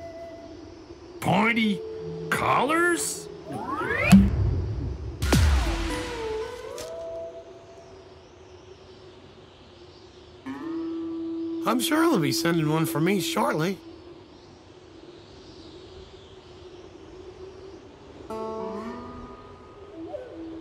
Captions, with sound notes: "Pointy..." "... collars...?!?" [thud ] [ whoosh ] I'm sure they'll be sending one for me shortly. [ wind blowing ]